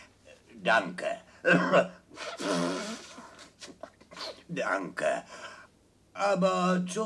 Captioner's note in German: husten